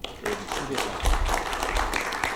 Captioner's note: applause